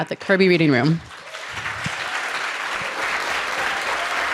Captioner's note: audience claps